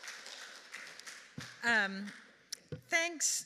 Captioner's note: audience applauding